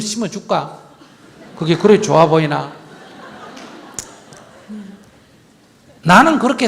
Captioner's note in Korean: 청중 웃음